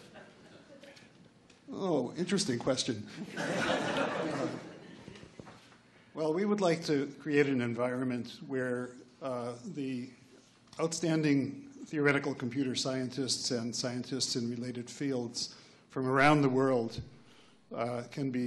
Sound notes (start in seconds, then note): 3.4 laughs